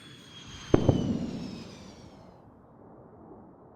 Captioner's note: jet engine revving up; sonic boom